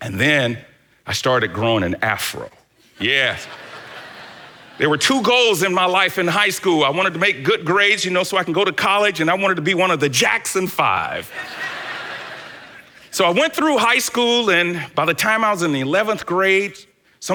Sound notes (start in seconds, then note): 3.2 congregation laughs